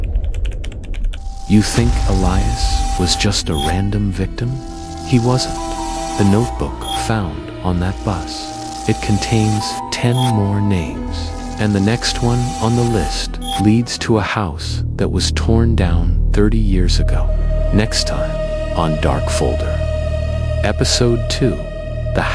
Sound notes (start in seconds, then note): 0.0 sharp violin screech; 4.4 glitch static; 13.3 glitch static; 20.9 glitch static